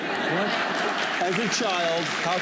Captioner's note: laughter; applause